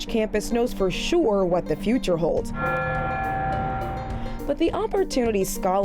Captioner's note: bells tolling